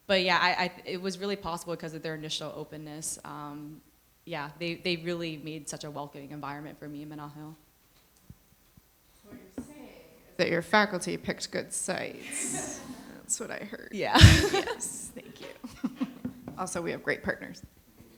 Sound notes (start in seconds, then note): 12.3 everyone chuckles; 14.1 chuckles